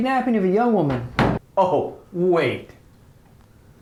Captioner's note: door closed